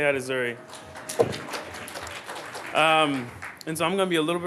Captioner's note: applause